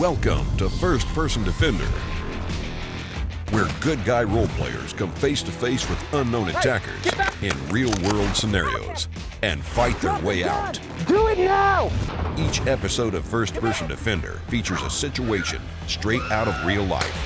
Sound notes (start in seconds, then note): 0.2 voiceover; 10.9 voiceover; 17.1 gun fire